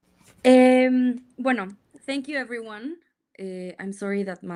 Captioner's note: speaks in Spanish